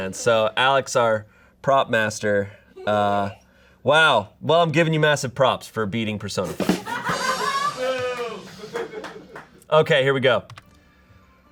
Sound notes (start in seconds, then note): 6.8 audience laughing